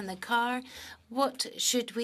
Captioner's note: speaking French